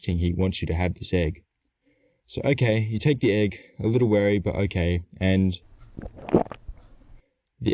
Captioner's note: sound of swallowing